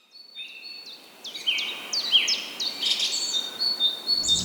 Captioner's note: nature Noises